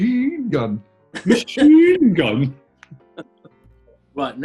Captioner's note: laughing